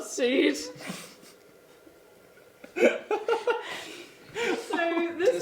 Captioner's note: laughing